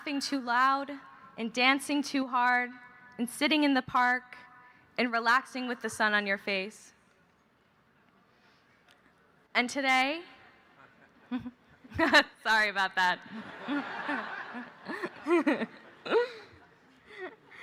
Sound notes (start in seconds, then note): 13.3 laughs; 16.8 laughter